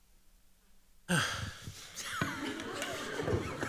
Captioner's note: sighs; laughter